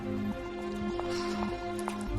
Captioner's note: sighs